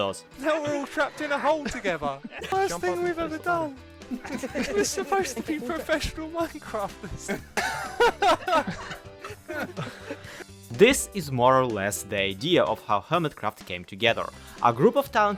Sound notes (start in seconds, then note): 4.1 others chattering and laughing